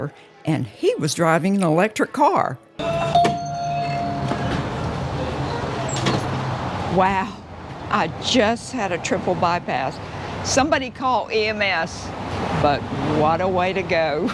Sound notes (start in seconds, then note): 2.8 door bell chimes; 6.0 door thuds